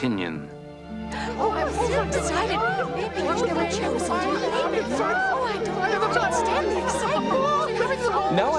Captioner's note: girls chattering happily